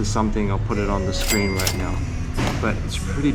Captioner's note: ding